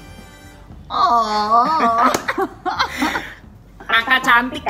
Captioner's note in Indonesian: Both laughing